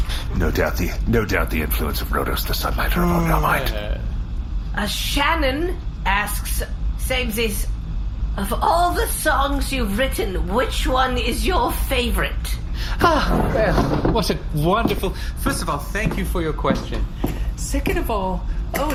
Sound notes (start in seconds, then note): 13.0 chuckling